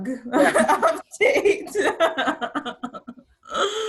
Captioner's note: everyone laughs